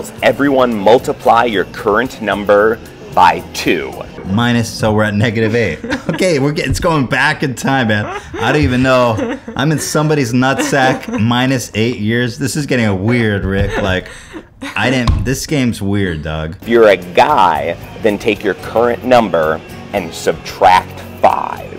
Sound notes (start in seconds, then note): 7.6 laughs